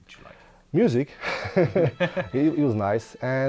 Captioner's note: laughs